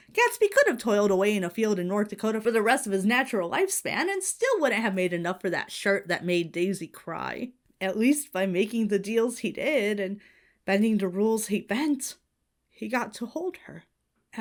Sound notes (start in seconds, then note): none